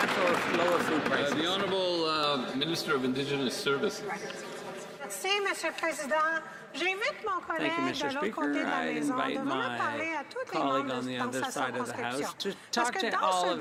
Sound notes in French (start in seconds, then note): 6.2 voix de l'interprète